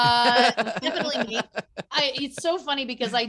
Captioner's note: laughing